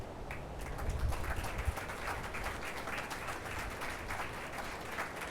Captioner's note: attendees applauding